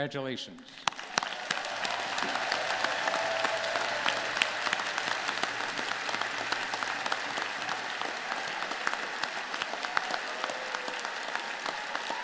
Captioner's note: applause